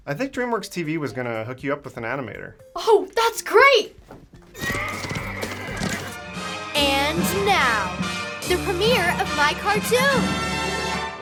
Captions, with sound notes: - I think Dreamworks TV was gonna hook you up with an animator. - Oh that's great! (horse neighing) (horse galloping) (theatrical music) And now the premier of my cartoon!